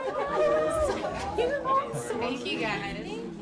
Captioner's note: happy chatter